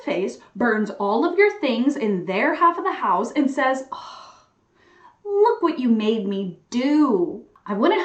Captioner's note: sigh